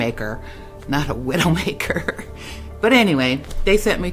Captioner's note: chuckles